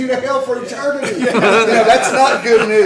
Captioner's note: laughter